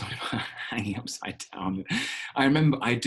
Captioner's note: chuckling